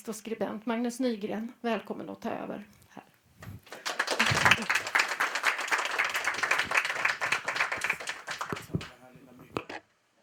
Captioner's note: applause